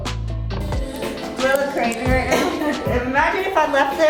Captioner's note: laughs